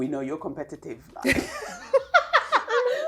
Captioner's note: laughs